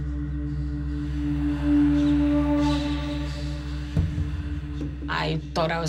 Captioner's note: whispering continues